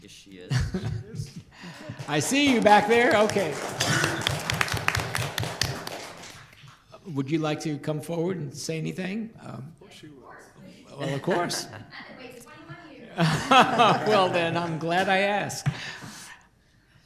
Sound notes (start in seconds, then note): 3.9 applause; 12.8 speaking quietly; 13.2 laughter